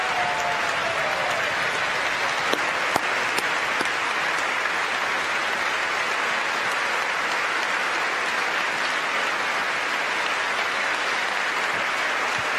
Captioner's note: applause